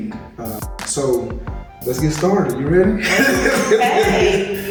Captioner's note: laughs